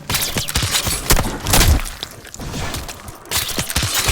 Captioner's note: gunshots firing